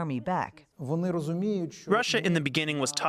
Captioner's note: speaking foreign language